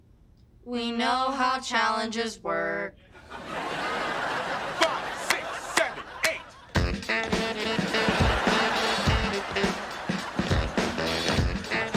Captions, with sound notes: We know how challenges work. [audience laughing] Five, six, seven, eight... [dance music playing]